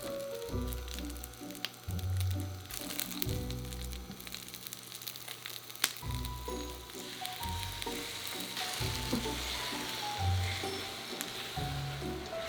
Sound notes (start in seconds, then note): 7.2 sizzling